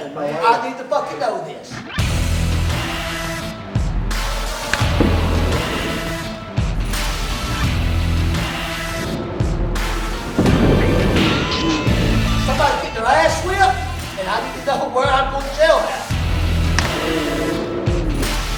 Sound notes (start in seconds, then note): 2.0 rock music playing; 4.8 thump; 5.5 rock music playing; 10.3 slams; 11.1 electronic music playing; 16.8 smack; 16.8 electronic music playing